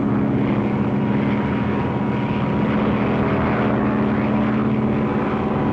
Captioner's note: plane rumbling